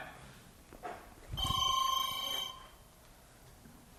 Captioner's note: phone rings